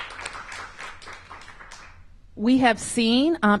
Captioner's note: applause